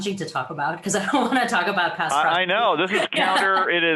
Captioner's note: laughs